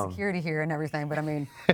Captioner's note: chuckles